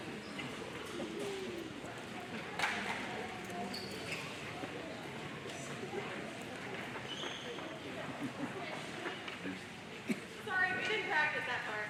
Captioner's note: audience chattering